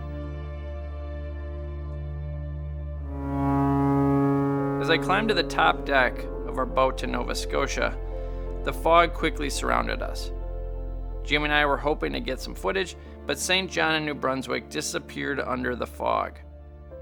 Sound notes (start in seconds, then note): 0.1 serene music; 3.0 horn blaring